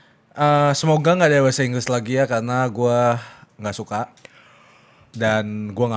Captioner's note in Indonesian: none